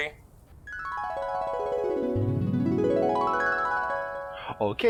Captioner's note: flashback sound